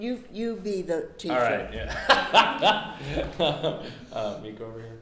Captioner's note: laughs